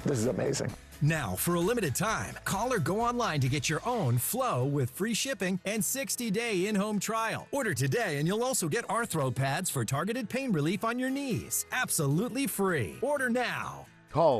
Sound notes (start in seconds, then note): none